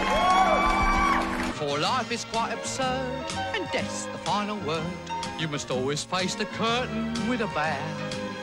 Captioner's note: insert crowd applause